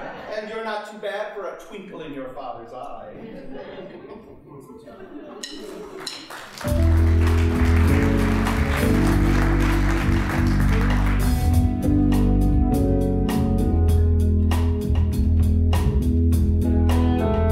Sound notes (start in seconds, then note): 3.1 audience laughing; 5.9 applause